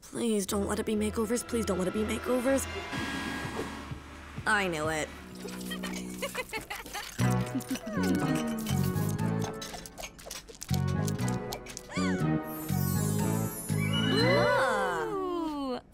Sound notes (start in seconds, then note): 5.4 giggling; 14.0 all exclaiming